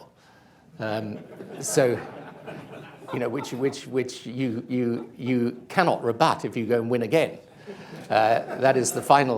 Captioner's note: laughter